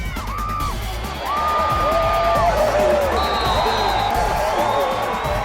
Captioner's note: crowd screaming, whistle blows